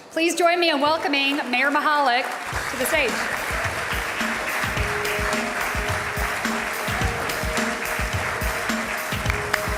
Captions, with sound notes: Please join me in welcoming Mayor Mihalik to the stage. (audience applauding) (upbeat instrumental music)